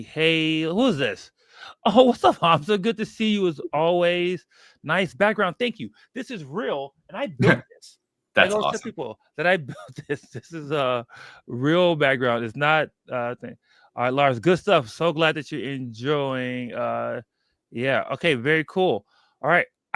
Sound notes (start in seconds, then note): 8.4 laughs